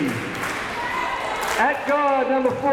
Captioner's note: crowd members cheering